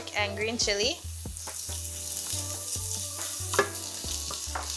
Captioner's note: oil simmering